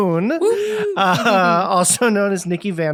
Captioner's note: woohoos